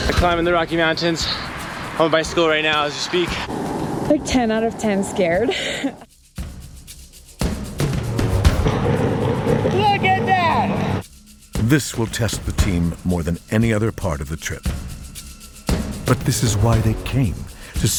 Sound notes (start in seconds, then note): 5.1 laughs; 6.7 upbeat tribal music